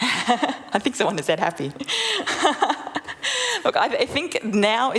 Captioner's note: laughter